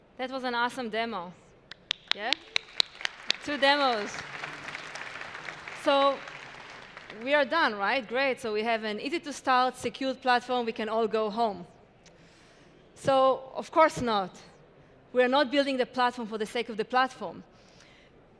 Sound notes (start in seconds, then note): 4.3 applause